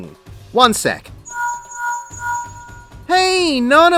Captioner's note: linkshell rings